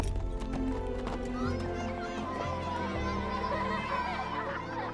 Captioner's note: children shouting and chattering